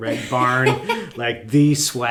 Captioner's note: laughing